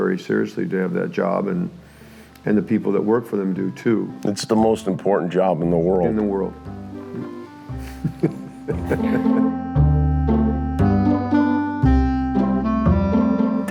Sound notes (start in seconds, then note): 7.8 laughter